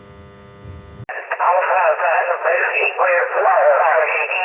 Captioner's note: radio chatter